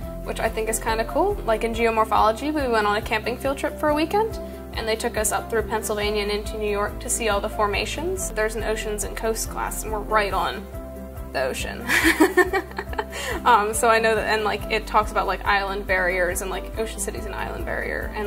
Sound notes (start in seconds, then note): 11.9 laughs